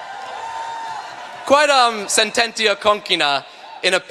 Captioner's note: speaking latin